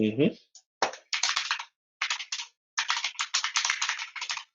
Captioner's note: keyboard keys clanking